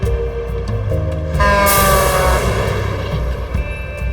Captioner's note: horn honking